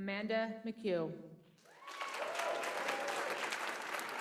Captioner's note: applause